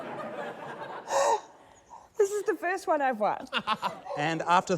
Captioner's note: gasps; laughter